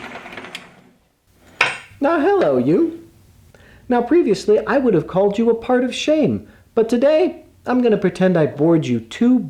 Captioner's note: clunk